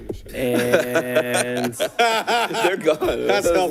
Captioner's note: laughter